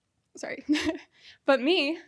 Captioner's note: chuckles